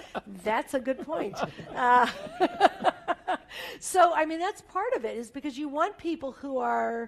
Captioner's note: laugh